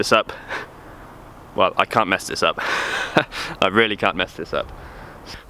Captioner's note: laughs